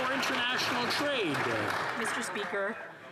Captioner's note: some Applause